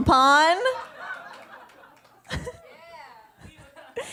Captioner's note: laughter